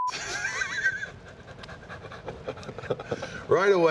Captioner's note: Wade and William laugh